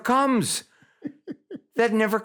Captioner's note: chuckles